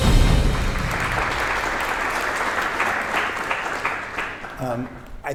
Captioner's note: beating drums; applause